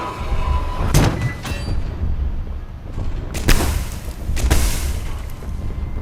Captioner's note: gun firing